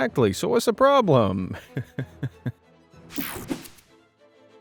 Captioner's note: chuckles